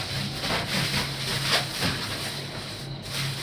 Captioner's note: rusting